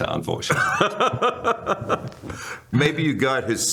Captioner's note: laughter